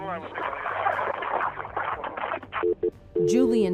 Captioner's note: static, dial tone